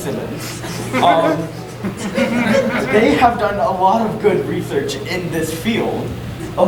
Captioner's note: audience giggling